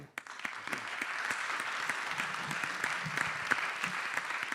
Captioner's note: applause